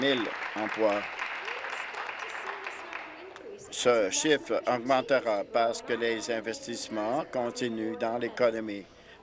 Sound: applause

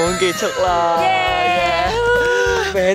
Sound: cheering

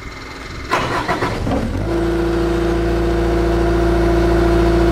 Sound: engine humming

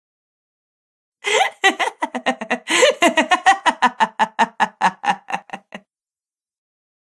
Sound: sound of laughter

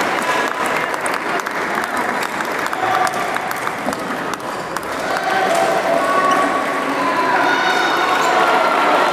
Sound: applause

